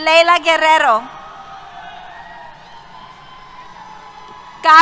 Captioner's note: cheers